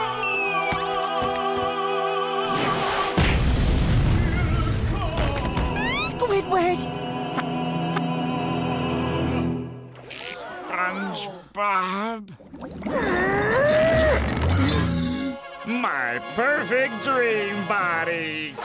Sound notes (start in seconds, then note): 12.6 grunting